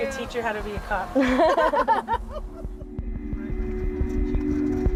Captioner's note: both laughing